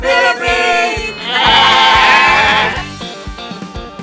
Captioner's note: bleats